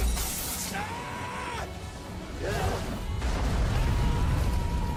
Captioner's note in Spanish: gente gritando